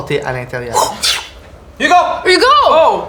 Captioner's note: whoosh